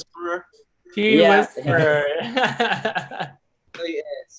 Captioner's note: laughs